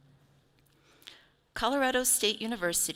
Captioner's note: none